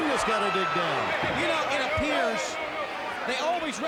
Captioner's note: people chattering